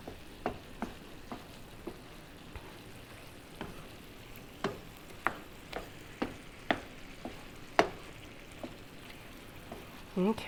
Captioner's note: spoon stirring in pan